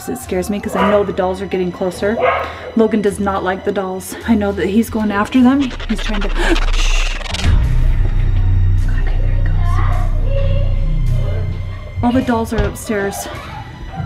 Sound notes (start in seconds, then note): 8.6 thrill music; 11.2 children laughing